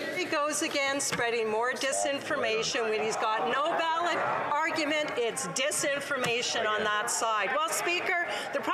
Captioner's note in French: Some Applause